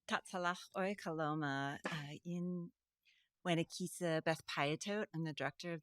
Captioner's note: speaking in foreign language